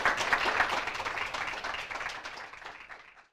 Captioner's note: applause